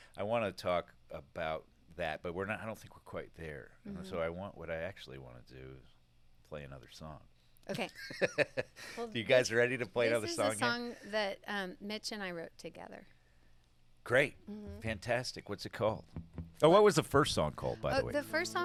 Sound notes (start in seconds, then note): 8.9 laughs